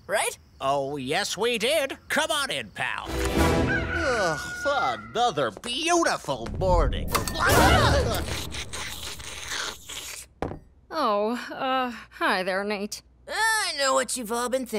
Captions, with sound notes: Oh, yes, we did. Come on in, pal. [rooster crowing] [yawning] Another beautiful morning. [gasping] [slurping] Oh, uh, hi there, Nate. I know what you've all been thinking.